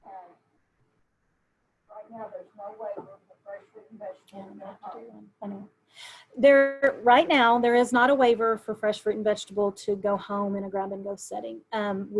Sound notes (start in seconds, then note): 3.4 murmurs